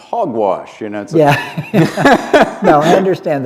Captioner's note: laughter